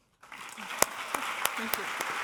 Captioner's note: audience applauding